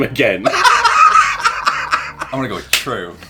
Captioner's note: laughing